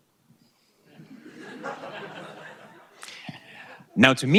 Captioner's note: audience laughing